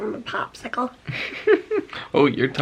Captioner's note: chuckles